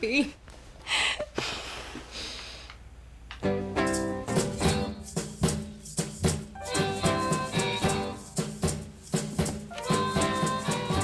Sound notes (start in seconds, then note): 0.9 inhales sharply; 2.8 sighs